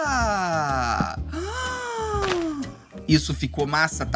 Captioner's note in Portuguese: faz som de surpresa